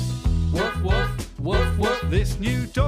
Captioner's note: woof woof, woof woof